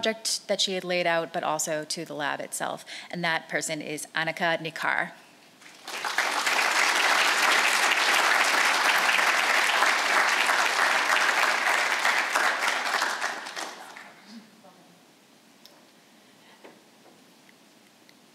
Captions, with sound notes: the project that she had laid out, but also to the lab itself. And that person is Annika Nicar. (audience applauds)